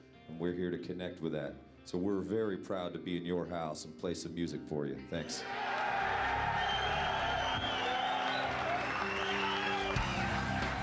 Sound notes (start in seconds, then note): 5.4 cheering; 6.3 whistling